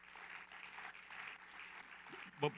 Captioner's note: applause